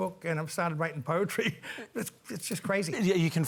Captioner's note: laughs